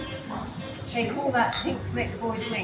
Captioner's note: lively music; glasses clicking